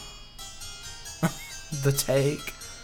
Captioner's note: laughs